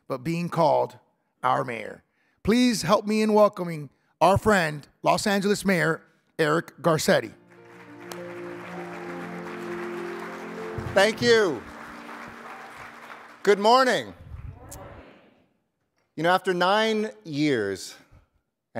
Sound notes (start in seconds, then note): 7.3 instrumental music; 7.4 audience applauding